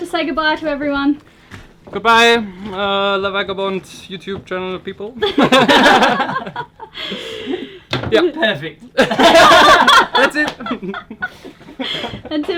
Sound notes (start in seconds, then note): 5.2 all laughing; 8.9 all laughing